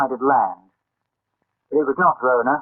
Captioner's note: silence